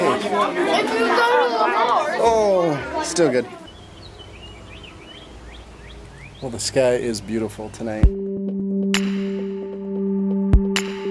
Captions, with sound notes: Oh, still good. (birds chirp) Well the sky is beautiful tonight. (upbeat music)